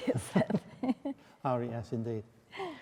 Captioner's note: laughing